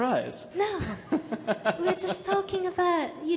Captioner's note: laughing